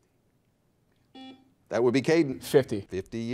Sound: buzzer beeps

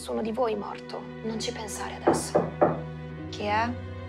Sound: knocks on door

